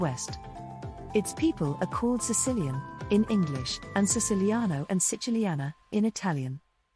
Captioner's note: in Italian